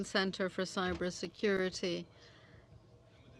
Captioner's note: speaking French